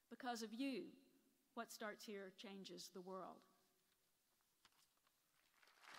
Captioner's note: applause